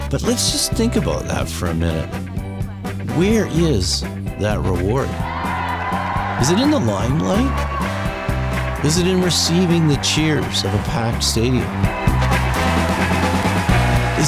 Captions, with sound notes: But let's just think about that for a minute. Where is that reward? (crowd cheering) Is it in the limelight? Is it in receiving the cheers of a packed stadium? (upbeat music)